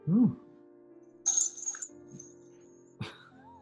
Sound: bells jingle; chuckling

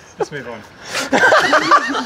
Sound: laughter

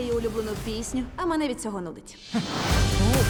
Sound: chuckles

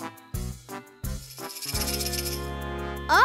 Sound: rattle shaking

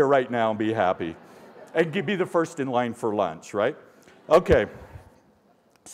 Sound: laughter

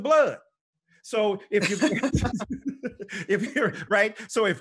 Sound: both laughing

